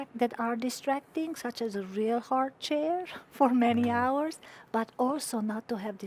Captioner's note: chuckling